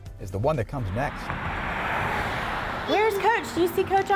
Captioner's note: traffic